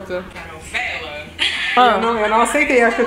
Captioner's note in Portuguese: risos